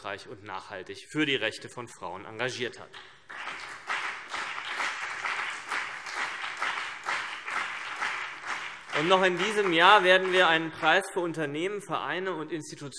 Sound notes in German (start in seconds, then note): 3.2 Beifall CDU und BÜNDNIS 90/DIE GRÜNEN